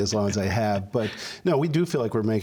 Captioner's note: laughter